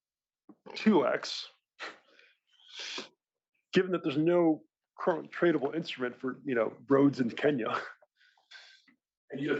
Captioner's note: laugh